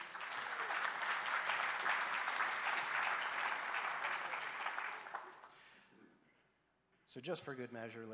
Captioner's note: applause